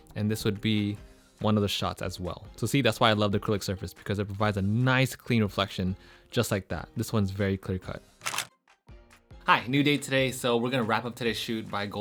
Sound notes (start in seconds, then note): 8.2 camera clicks